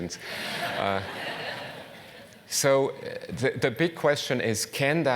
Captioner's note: laugh